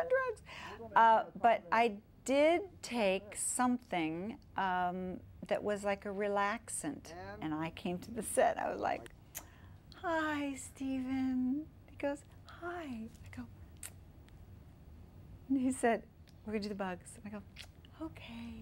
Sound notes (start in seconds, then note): 9.3 sing-song voice